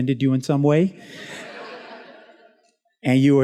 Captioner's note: students laughs